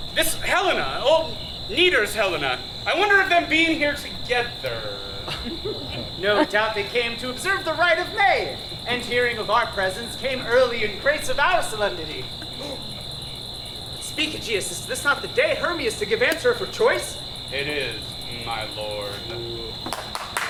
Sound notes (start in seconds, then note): 12.4 gasps; 19.8 claps